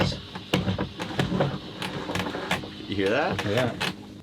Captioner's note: handle pumping